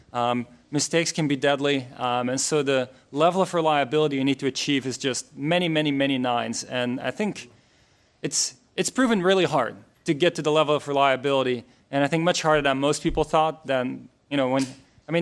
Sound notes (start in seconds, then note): none